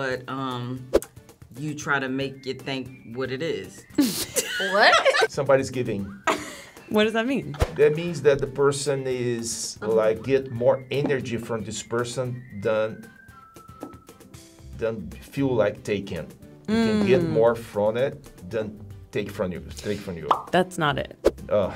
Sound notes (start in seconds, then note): 3.9 laughs; 6.2 chuckles; 20.3 bubble pops